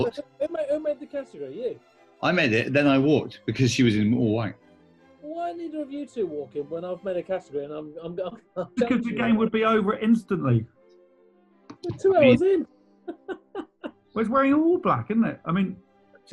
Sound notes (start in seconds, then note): 11.8 laughing